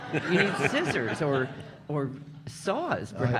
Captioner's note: audience laughing